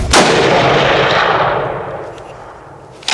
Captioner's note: gun fires